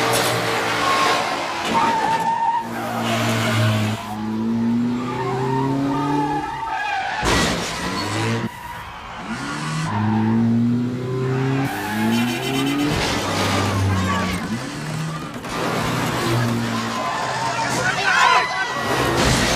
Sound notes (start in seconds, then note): 6.1 car smashes